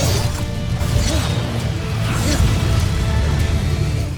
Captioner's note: growls; weapon swishes, then clangs; weapon swishes; grunts; music fades